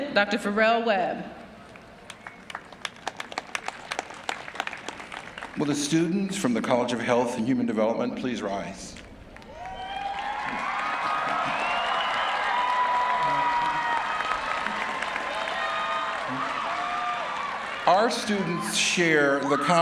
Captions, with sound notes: [APPLAUSE]. >> THIS YEAR, THE RECIPIENT OF THE UNIVERSITY'S WOLFSON SCHOLAR AWARD IS SHAWNTEL BARREIRO. [CHEERING AND APPLAUSE] SHAWNTEL IS A DOUBLE MAJOR IN LINGESTICS. SHE HAS A 3.97 GRADE POINT